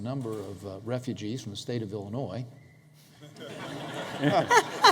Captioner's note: laughter